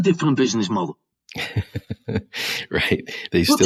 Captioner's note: laughs